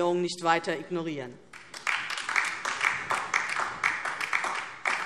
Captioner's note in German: Beifall DIE LINKE